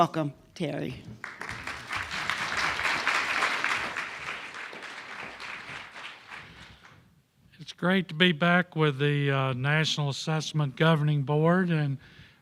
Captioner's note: applause